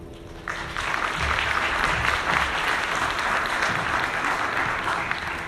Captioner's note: audience applauding